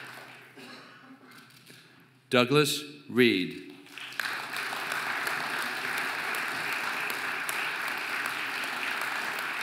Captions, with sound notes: Douglas Reed (audience applauding)